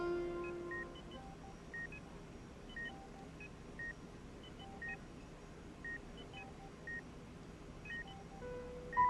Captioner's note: sounds of medical equipment